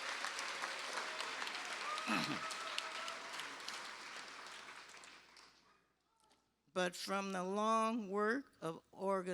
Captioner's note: cheers and applause